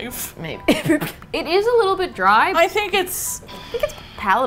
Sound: laughs

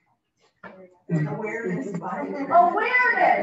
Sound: audience speaking

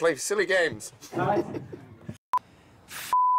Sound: McAVOY CHUCKLES

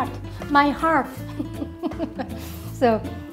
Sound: laughs

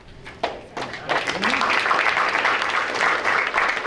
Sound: applause

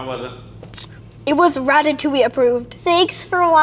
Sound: smacks lips

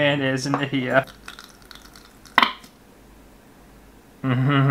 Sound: squelchy Mayonnaise Sounds

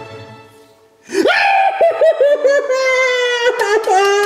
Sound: screams

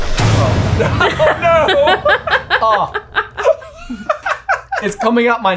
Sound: suspenseful sound whooshing; laughing

